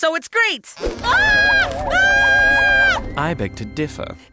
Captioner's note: screams